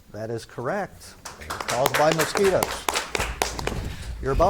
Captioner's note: spectators clap